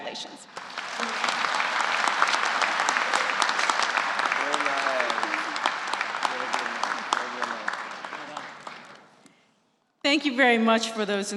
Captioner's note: applause